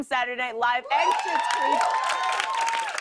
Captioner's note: cheers and applause